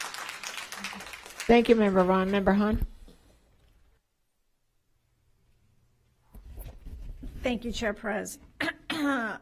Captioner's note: applause